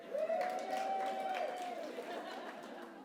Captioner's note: cheers